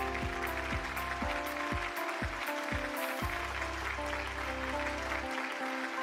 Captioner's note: applause; light instrumental music